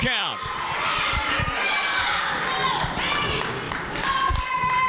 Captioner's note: crowd cheers and applauds